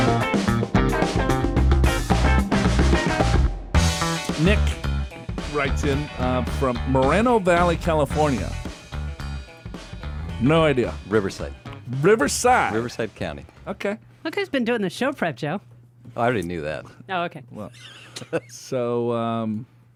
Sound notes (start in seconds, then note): 17.7 laughs